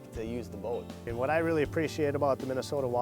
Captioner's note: voiceover